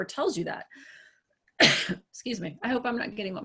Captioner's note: coughs